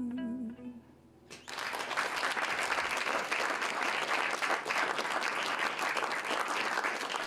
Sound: applause

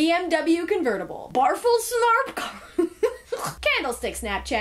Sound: laughs

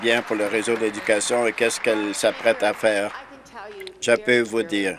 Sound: applause

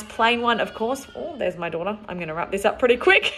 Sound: baby crying

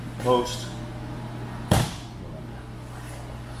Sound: hand slams against the floor

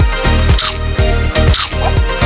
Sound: crunch!

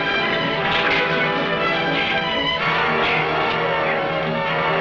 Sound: men shouting

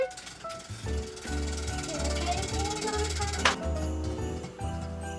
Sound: wheel spinning

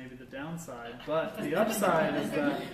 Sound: laughter

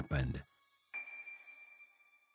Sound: magic sparkles

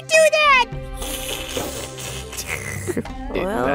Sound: slurp slurp slurp

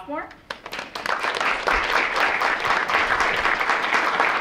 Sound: audience clapping

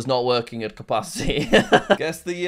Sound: laughs

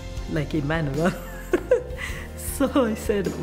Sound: laughs

